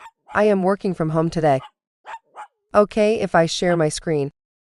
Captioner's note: "Sky" barking